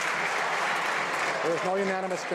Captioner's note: some Applause